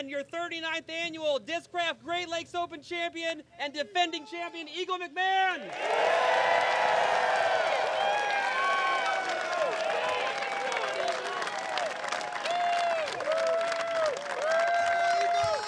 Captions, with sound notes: your 39th annual Discraft Great Lakes Open champion and defending champion, Eagle McMahon. [cheering] [applause]